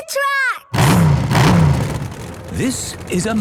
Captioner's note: engines revving